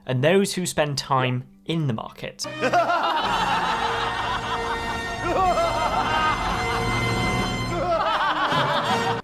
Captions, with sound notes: and those who spend time in the market. (intense instrumental music) (group laughing)